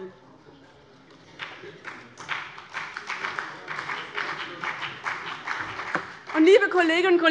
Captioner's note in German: Beifall bei dem BÜNDNIS 90/DIE GRÜNEN und der CDU